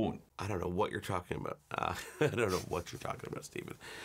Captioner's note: laughs